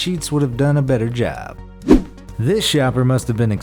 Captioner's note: air whooshes